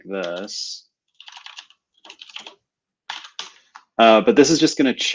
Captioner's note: typing